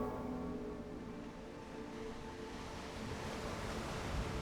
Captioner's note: waves crashing